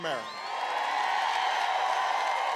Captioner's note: applause